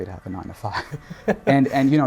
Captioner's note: laughs